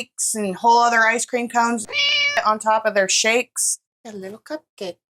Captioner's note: meow